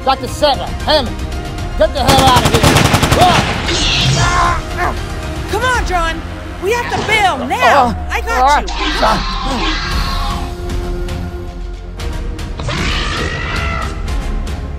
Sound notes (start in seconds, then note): 2.0 gunshots; 3.7 velociraptor Screeching; 9.1 velociraptor screeching